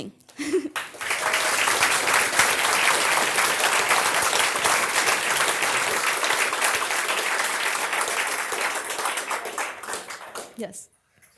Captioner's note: applause; laugh